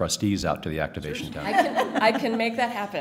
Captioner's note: laughter